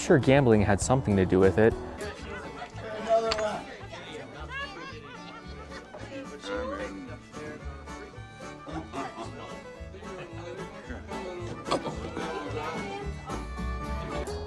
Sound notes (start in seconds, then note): 2.0 barroom noises